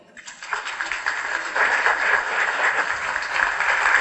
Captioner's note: applause